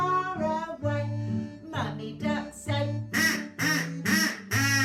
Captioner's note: quack, quack, quack, quack